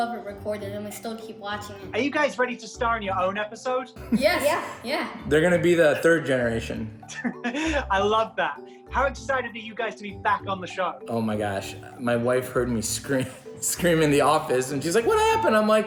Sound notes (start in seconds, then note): 7.0 laughs; 13.1 laughs